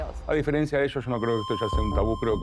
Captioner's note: Spanish